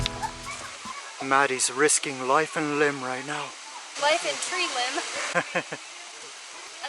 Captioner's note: laughter